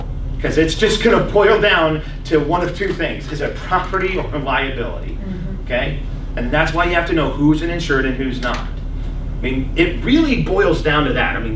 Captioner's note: coughs